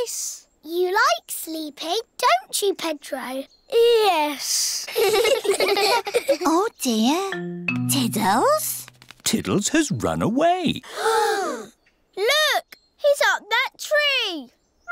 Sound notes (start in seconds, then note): 4.8 all giggle; 10.8 all gasp